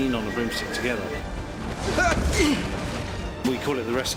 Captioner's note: grunts